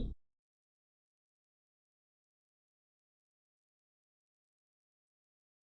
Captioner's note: long silence